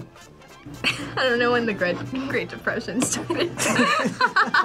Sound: both laugh; laughs

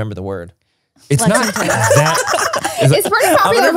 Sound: everyone laughs

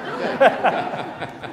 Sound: laughter

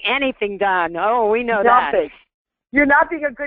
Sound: voiceover

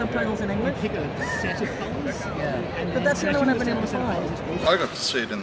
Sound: laughs

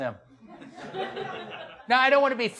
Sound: audience laughs

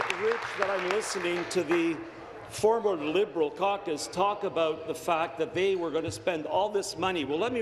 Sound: applause

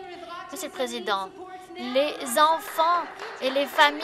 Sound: some Applause

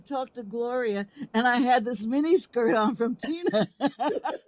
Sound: laughs

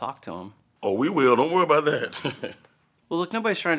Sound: chuckles

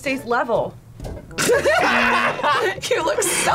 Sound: both laugh; buzzer rings

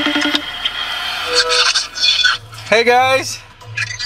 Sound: phone screeches

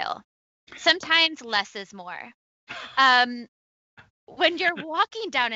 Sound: laughs

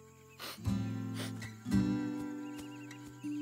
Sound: bird chirping

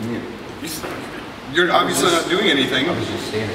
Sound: stammering

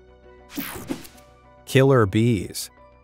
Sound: picture whooshing

